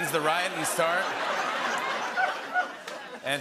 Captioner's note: laughter